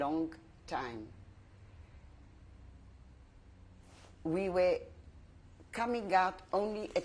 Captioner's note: pauses for 3 seconds